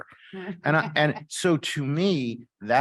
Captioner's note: chuckles